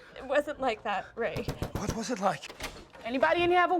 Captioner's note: loud knocking